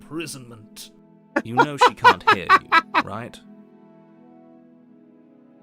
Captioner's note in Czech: smích; žádný zvuk